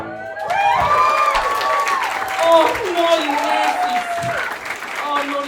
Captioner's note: applause from an audience who doesn’t know what’s coming